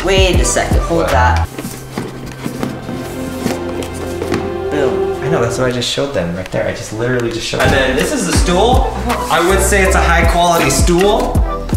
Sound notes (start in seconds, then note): 1.4 cardboard rustling; 2.4 dramatic music